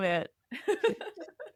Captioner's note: laugh